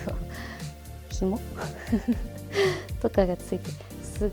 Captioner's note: laughs